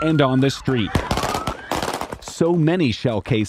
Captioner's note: rapid gunfire